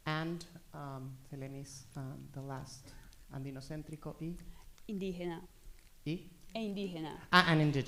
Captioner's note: speaking spanish